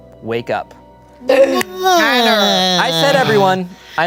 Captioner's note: gasps